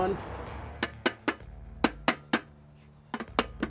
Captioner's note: taps